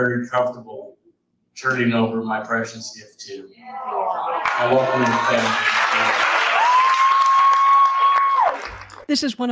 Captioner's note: audience cheers and applauds